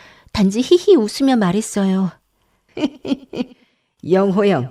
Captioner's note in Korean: 웃음